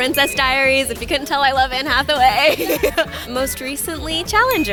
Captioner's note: laughing